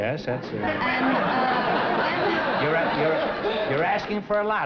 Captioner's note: laughter